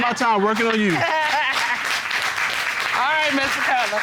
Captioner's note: audience applauding